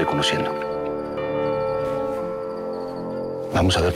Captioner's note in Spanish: Suenan las campanas